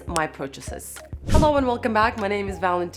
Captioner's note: air whooshing